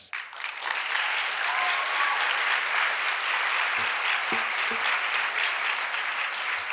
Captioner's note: audience applauds and cheers